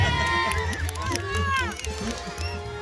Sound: cheering

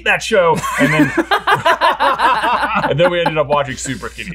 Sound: laughing

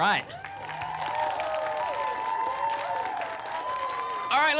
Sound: applause and cheering

